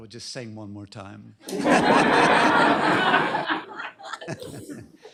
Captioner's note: laughter